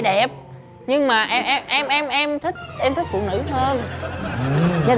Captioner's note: stuttering